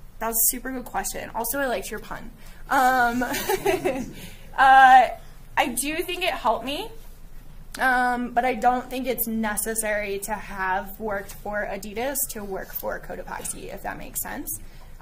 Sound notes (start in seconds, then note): 3.1 laughing